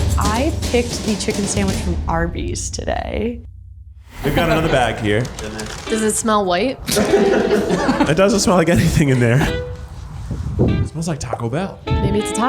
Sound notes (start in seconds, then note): 0.0 intense instrumental music; 6.8 all laugh